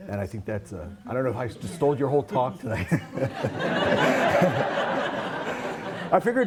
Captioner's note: laughter